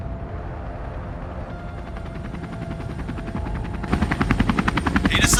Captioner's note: helicopter whirring